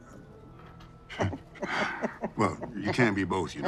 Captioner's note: Mitch chuckling